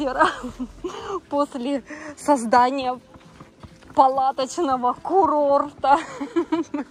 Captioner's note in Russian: смех